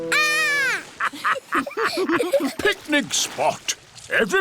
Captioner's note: laughter